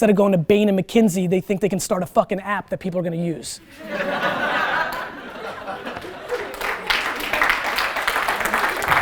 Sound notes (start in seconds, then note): 3.6 students laugh; 4.8 students applaud